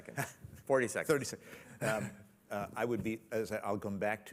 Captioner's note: chuckles